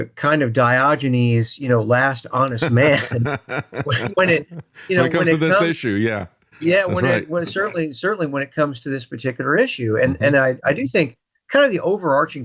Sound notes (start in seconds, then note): 2.4 laughing